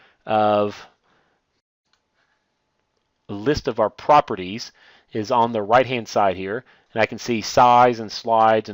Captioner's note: click